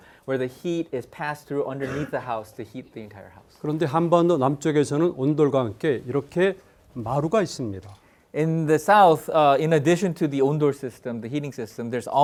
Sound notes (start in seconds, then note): 3.7 speaking in Korean